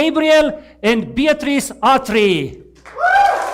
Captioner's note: Aplauze